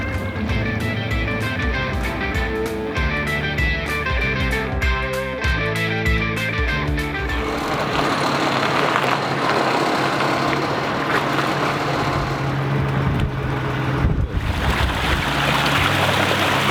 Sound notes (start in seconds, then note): 4.8 lively upbeat music; 6.3 boat engine purring; 14.4 water bubbling